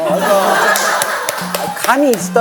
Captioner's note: haha